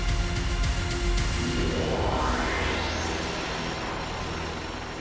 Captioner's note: warp whooshing